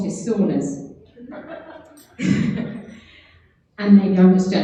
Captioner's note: laughing